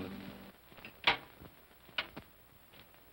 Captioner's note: door opens